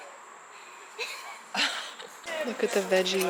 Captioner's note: laughs